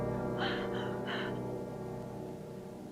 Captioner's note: panting